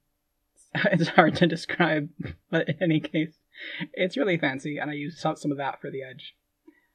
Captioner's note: laughing